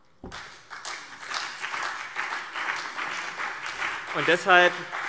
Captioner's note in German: Beifall CDU und BÜNDNIS 90/DIE GRÜNEN